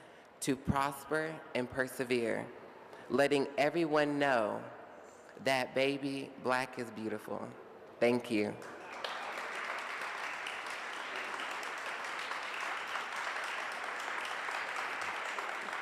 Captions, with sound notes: to prosper and persevere. Letting everyone know that baby, black is beautiful." Thank you. (audience applauds)